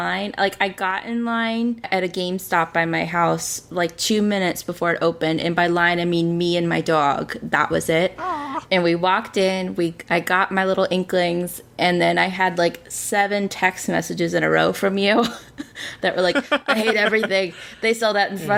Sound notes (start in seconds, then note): 8.1 laughs; 16.2 laughs